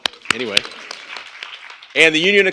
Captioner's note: applause